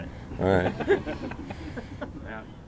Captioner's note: laughter